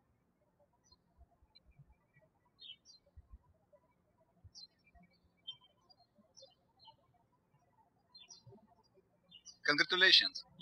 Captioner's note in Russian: птички щебечут